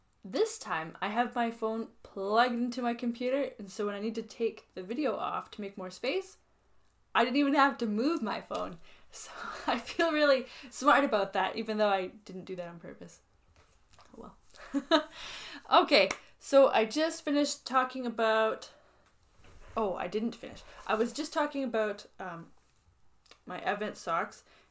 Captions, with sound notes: This time, I have my phone plugged into my computer, and so when I need to take the video off to make more space, I didn't even have to move my phone. So I feel really smart about that, even though I didn't do that on purpose. Well. [laughs] Okay. [claps] So I just finished talking about, oh, I didn't finish. I was just talking about, um, my Advent socks.